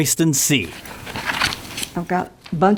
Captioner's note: pages shuffling